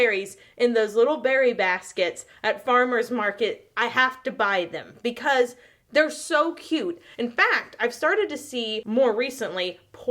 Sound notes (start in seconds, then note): none